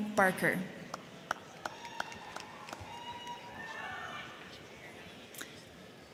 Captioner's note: crowd clapping; crowd cheering